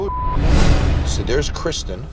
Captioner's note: beep